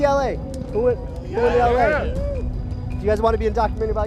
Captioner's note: cheering